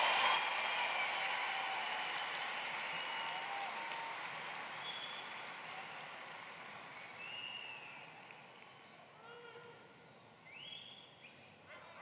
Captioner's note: cheering and applause